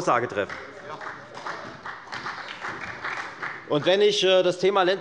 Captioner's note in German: Beifall bei der FDP und bei Abgeordneten der SPD